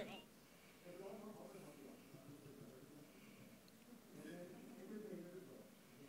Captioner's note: distant voices murmuring